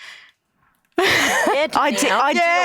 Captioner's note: laughs